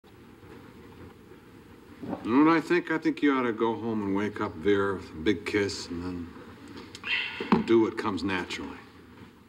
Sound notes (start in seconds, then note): 5.1 sighs